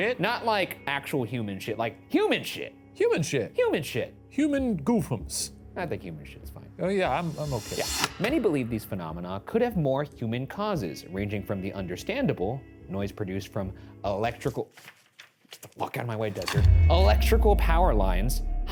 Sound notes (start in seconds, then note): 14.2 paper rustles; 16.4 slide projector clicks